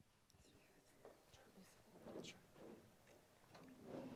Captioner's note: indistinct conversation